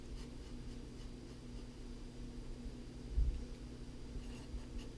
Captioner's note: pen writing on paper